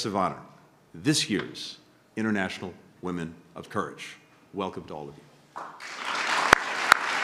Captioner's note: applause